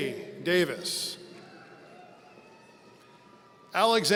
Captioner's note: audience cheering